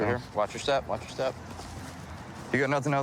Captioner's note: none